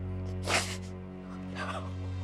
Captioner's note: sniffs